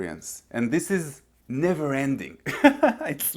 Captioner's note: laughs